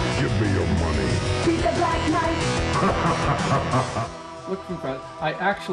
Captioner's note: Black Knight laughs